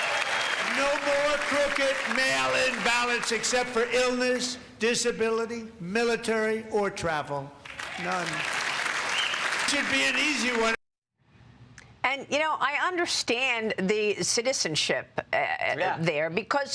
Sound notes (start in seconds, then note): 3.3 cheers and applause